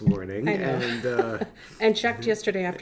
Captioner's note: laughs